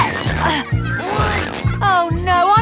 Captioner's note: grunting